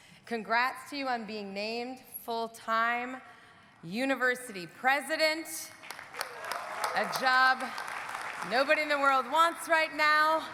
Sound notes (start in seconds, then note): 5.8 audience applauding; 6.1 audience cheering